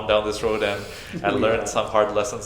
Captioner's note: chuckles